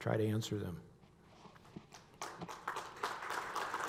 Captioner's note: applause